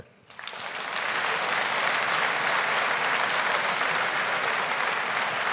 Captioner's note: audience applauding